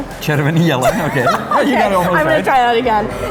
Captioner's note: laughing